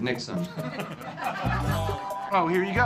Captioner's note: laughter